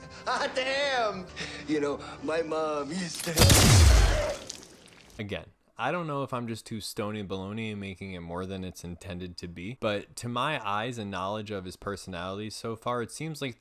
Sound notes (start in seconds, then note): 1.3 chuckles; 3.3 blam